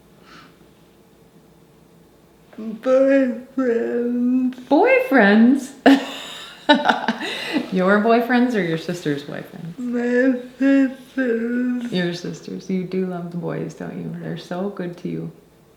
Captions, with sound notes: - Boyfriends. - Boyfriends? (laughing) Your boyfriends or your sister's boyfriends? - My sister's. - Your sister's. You do love the boys, don't you? They're so good to you.